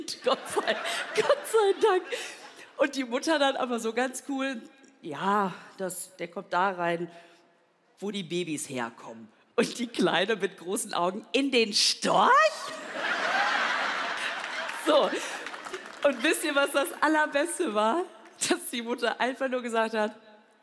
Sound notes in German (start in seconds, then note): 13.3 Amüsiertes Lachen